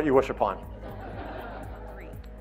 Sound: audience laughing

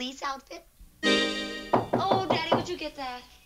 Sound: knock at door

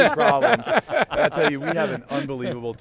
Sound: laughter

